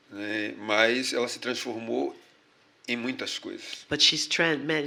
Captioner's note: speaking portuguese